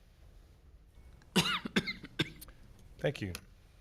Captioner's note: coughing